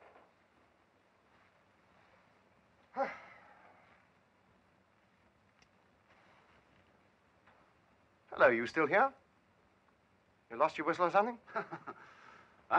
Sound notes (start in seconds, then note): 2.9 Bob sighs loudly; 11.5 man laughing